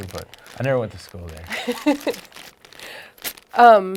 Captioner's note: laughing